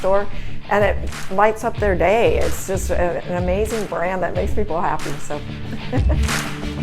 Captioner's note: laughs